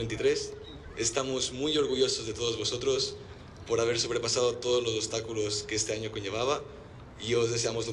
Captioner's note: in Spanish